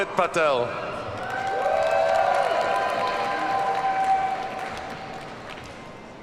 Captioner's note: audience cheers and applauds